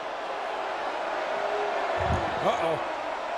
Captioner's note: audience booing